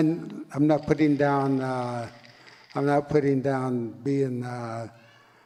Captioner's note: clap sticks rattle